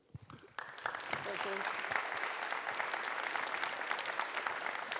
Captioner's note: audience applauds